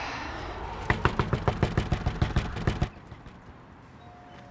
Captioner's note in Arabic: يطرق